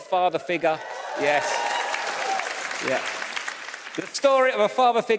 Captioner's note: audience cheers